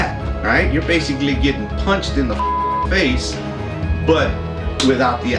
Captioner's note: beep